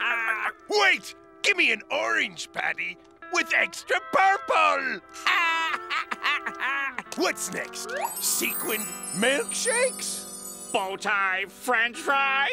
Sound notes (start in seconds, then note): 5.1 laughing